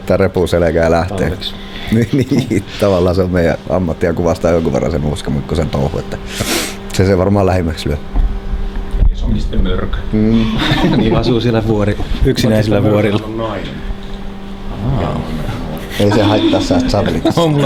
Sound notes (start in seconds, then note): 2.7 laughs; 10.3 everyone laughs; 14.8 laughs